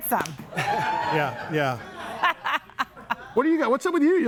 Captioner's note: laughs